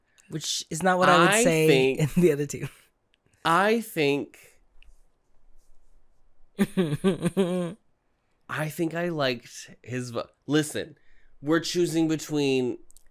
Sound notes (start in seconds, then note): 6.5 forced laughter